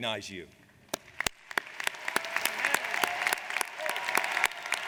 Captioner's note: audience applauds